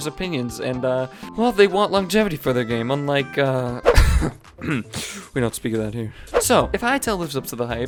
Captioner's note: cough